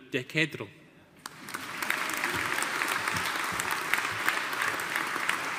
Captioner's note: audience applauding